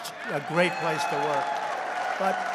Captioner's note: applause